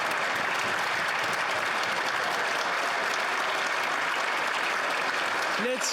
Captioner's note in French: applaudissements; voix de l'interprète; applaudissements